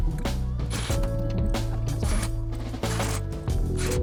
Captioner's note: drill whirring